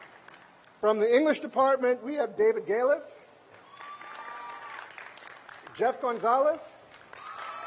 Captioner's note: applause